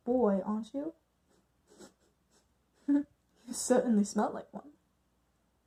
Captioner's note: sniffs